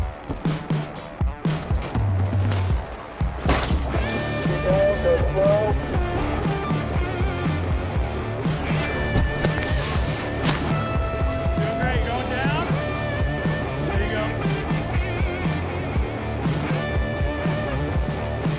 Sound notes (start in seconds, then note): 0.6 tires climbing rocks; 10.2 rock music